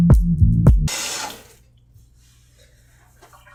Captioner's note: bath Faucet Turning Off